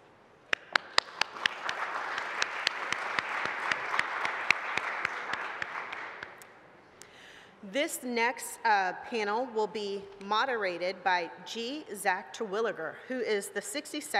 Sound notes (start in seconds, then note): 0.5 applause